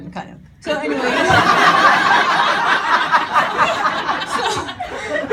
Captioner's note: audience laughing